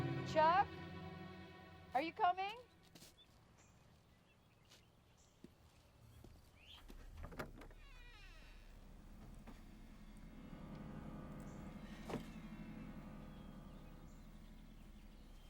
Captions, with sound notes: - Chuck, are you coming? (door creaks)